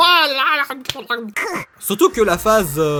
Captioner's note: Nowi dying noises